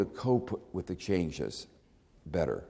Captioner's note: none